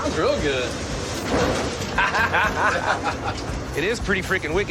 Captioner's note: both laugh